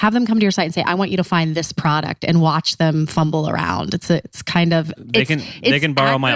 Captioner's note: laughs